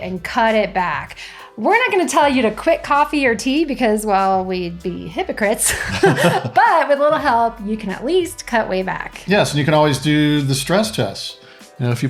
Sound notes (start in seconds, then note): 5.7 laughs